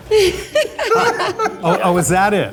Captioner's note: group laughs